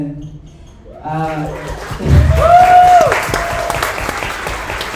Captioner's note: audience applauds